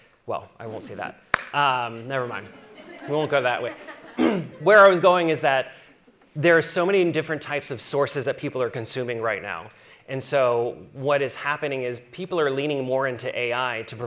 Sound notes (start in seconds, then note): 2.4 audience chuckling